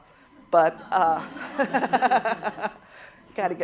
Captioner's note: laughter